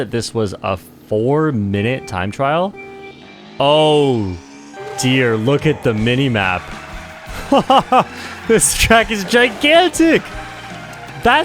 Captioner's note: laughs